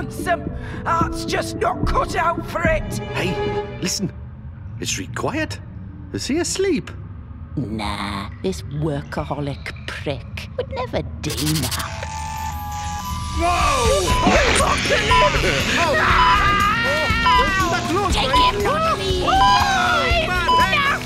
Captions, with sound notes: Heart’s just not cut out for it. Hey... listen... It’s reet quiet. Is he asleep? Nah. This workaholic prick would never daynap- [Cutting sounds] Whooooaa! It’s the apocalypse! Holy shit man! Don’t do that to us! Take him not me! Ooooagh! It’s nasty!